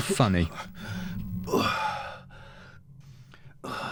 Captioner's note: Eddie groans